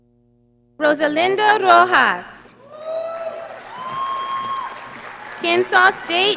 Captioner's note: audience applauding